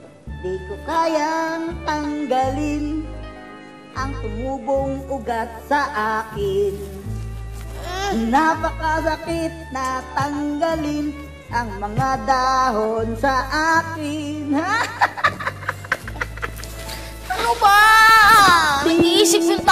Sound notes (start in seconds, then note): 7.7 moans; 14.6 laughs